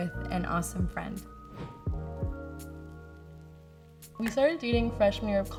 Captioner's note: wind whooshes